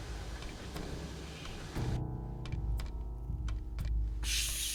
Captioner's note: hissing